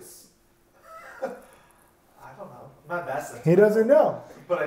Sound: chuckles

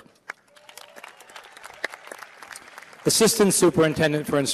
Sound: applause

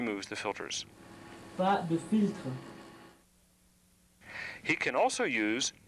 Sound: non-english speech

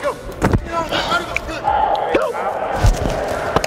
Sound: hitting

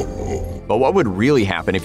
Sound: laughing menacingly

